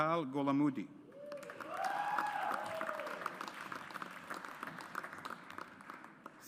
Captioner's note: audience applauds